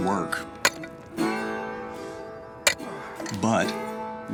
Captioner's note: hammering